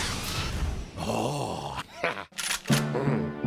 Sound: evil giggling; chuckles

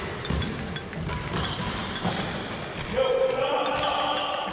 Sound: basketball bouncing; ringtone jingling

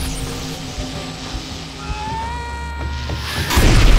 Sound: yells

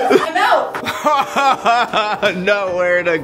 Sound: laughs

